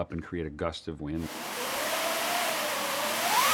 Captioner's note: sound of strong wind; sound of wind gusting